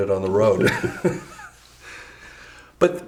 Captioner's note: berman chuckles